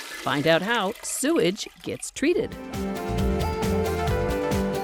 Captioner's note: flushing